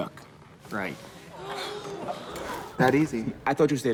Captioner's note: people gasping